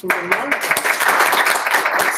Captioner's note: applause